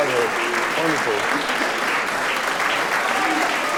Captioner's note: crowd applauds